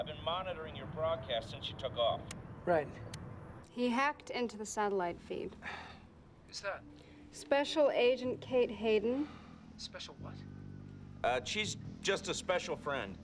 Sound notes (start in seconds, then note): none